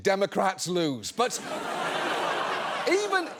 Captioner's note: audience laughs